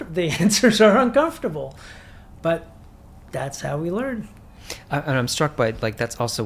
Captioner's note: chuckles